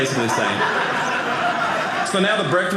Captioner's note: audience laughing